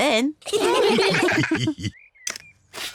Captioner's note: all laugh